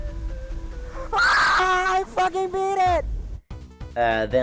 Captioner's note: screams